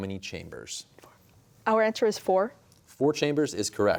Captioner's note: whispering